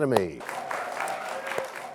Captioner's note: cheers and applause